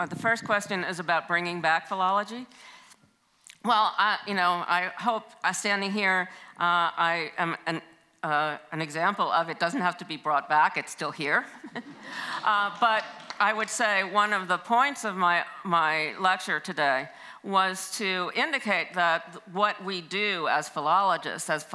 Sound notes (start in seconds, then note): 11.6 chuckles; 11.7 audience laughs